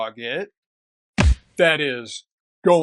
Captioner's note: punch